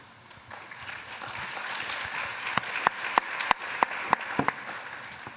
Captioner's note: applause